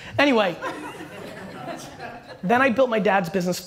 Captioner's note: audience laughter